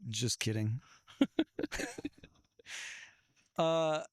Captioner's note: laughing